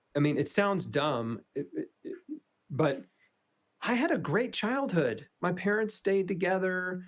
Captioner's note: laughs